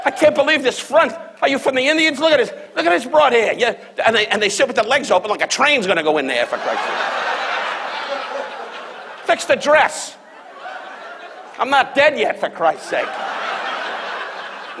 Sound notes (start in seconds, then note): 7.5 audience laughs; 10.7 audience laughs